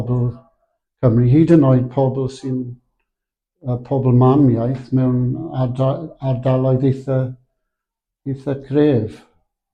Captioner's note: Welsh-speaking